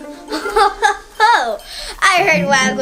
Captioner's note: laughs